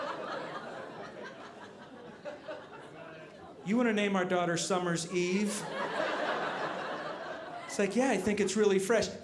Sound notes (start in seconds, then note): 5.1 audience laughing